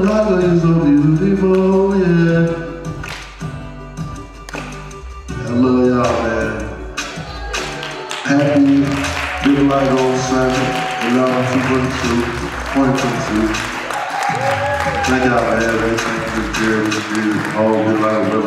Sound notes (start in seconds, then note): 7.6 applause drowns out speaker; 8.6 audience applauds; 14.4 audience cheers